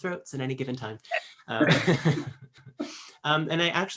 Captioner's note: laughs